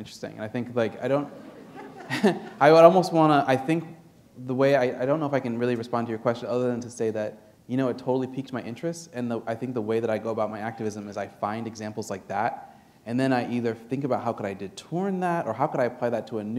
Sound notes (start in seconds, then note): 1.1 laughter